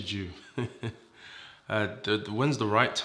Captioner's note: chuckles